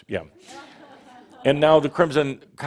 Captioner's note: some chuckles